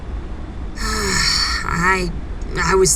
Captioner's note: Ash sighs